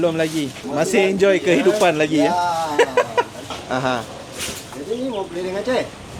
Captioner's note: laugh